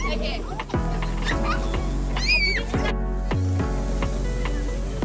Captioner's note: children squealing; upbeat music